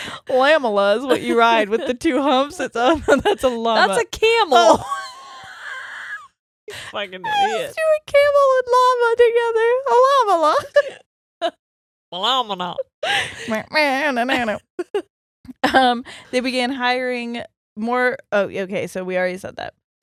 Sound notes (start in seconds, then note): 2.8 laughing; 7.2 both laughing; 10.7 both laughing; 13.5 sings; 14.3 laughs